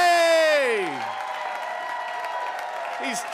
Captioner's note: audience applauding